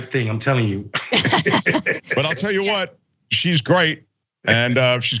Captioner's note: laugh